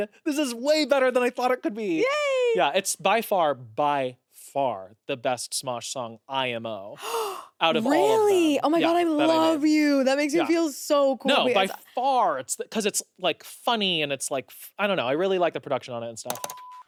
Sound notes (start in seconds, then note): 7.0 gasps